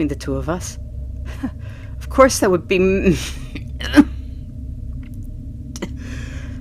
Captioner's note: choking, coughing